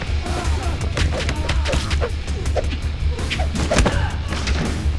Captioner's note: air whipping; thudding